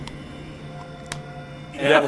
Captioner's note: slap